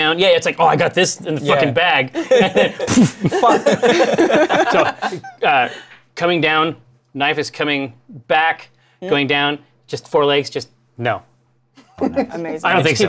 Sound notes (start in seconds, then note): 2.1 laughter; 11.6 laughs